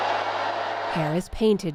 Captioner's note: cheering